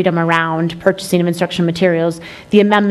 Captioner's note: none